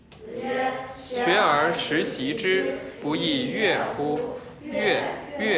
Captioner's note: hablan un idioma extranjero